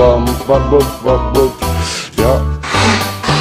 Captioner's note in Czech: nádech